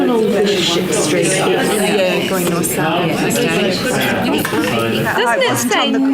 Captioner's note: participant chatter